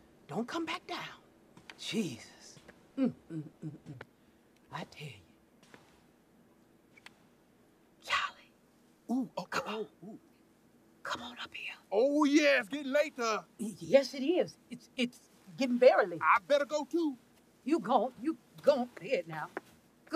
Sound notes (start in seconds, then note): 11.3 whispering